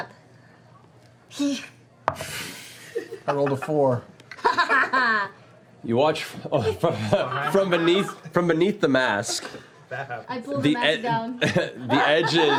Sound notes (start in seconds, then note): 4.4 laughs